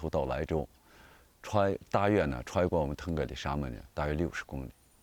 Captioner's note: speaking chinese